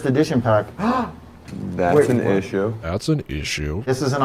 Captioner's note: gasps